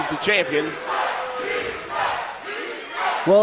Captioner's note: crowd